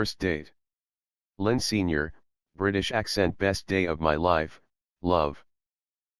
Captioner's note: british Accent